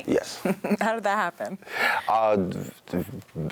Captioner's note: chuckles